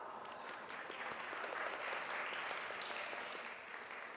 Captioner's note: audience applauds